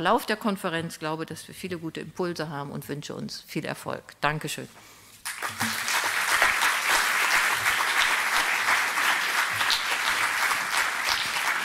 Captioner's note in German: applaus